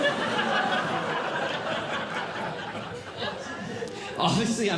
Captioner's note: audience Laughing